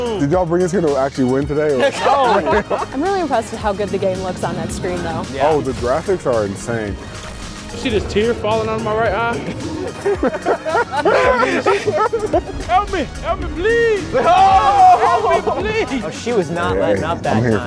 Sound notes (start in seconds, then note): 1.8 laughter; 9.7 laughter; 13.9 shouting